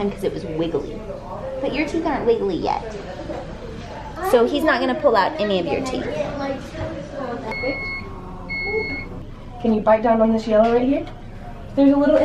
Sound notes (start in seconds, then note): 7.5 machine beeping